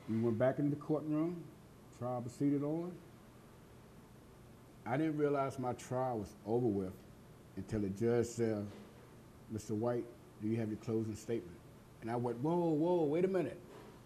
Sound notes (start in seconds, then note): none